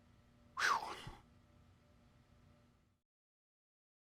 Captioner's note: doctor sighs